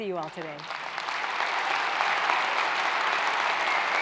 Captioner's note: clapping